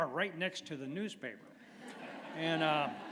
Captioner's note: laughter